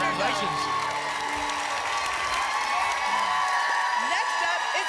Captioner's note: applause and cheering